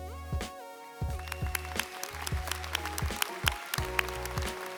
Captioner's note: audience applauds